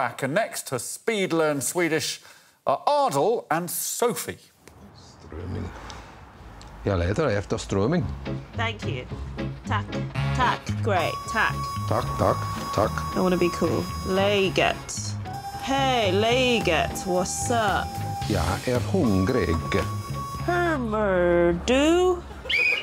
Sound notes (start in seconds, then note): 5.3 speaking Swedish; 14.7 speaking Swedish; 20.6 Sophie speaking Swedish